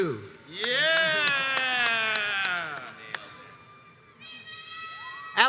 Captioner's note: crowds cheers and applauds